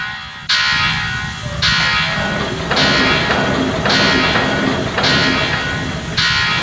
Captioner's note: blast door lock Spins clockwise